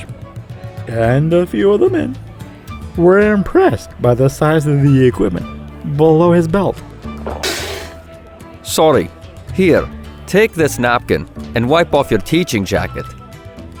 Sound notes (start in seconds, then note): 7.4 spit take